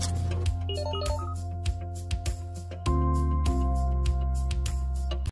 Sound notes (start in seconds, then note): 0.7 computer tones